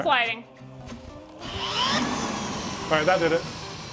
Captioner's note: power drill whirring